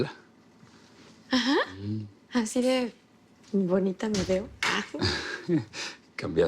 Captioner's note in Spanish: Risas